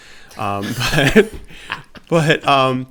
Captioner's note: laughter